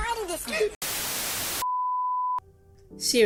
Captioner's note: static